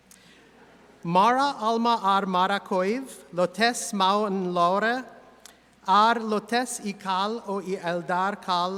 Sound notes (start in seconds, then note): 1.4 speaks in high Elvish